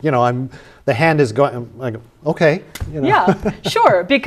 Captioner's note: laughter